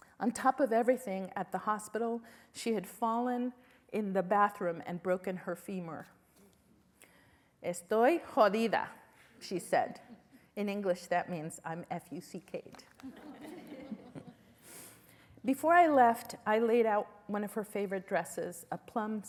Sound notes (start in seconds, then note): 7.6 spanish; 13.0 laughter